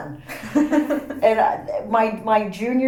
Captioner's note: laugh